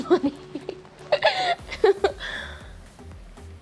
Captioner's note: laughs